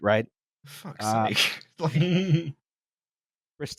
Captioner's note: chuckles